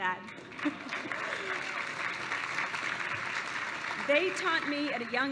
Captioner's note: applause